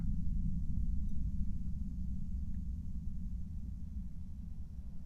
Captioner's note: low rumbling ambiance